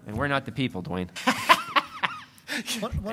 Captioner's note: laughter